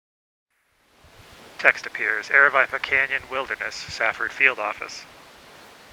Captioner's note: wind blowing